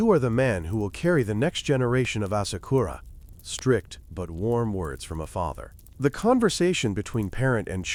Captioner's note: bonfire